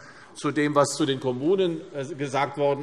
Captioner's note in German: none